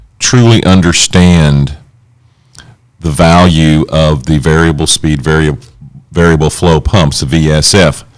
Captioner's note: none